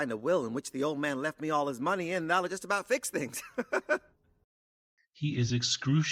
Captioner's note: laughs nervously